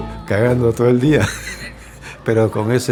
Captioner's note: laughter